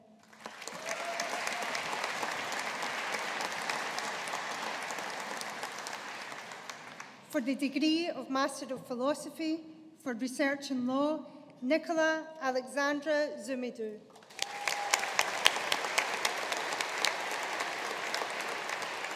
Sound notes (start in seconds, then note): 0.2 audience applauding; 14.1 audience applauding